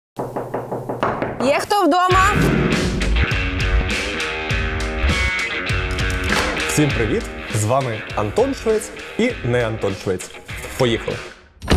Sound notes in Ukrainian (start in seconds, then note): 0.1 стук